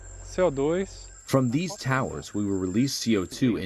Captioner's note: through translator